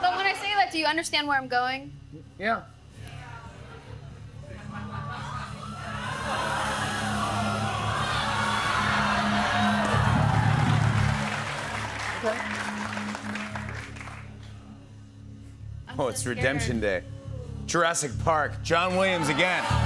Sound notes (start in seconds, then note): 5.5 audience exclaiming; 9.2 applause